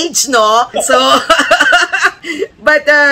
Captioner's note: laughter